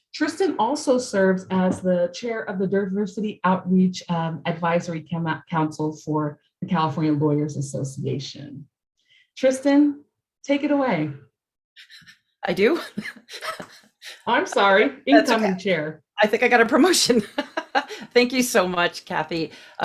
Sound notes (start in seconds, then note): 12.8 chuckles; 17.2 laughing